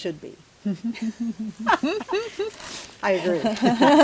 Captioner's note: laughter